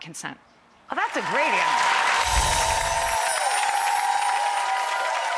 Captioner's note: applause